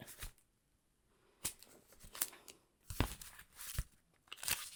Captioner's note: pages rustle